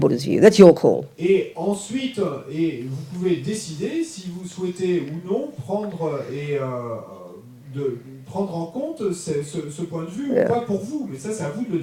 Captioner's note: audience member speaks in French